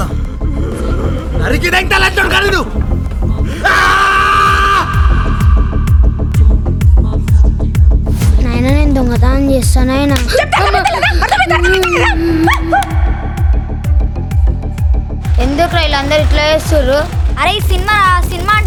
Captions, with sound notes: I'll butcher you to death, you bastard! Father, I want to execute this Theft. Have you gone mad? Why don't you listen to me? (Kid sobbing) Why is everyone behaving this way? This is a movie and this behaviour is common in cinemas.